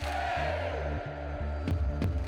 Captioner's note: crowd